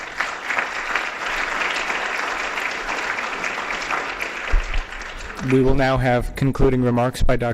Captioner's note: applause